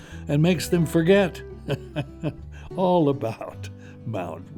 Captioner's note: chuckles